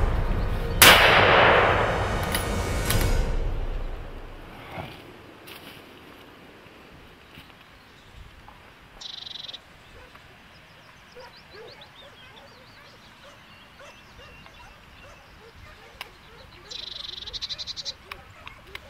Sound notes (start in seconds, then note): 0.0 gunshot; 11.1 dogs barking